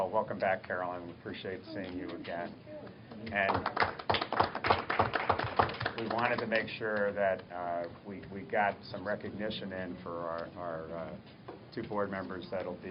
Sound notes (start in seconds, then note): 3.3 applause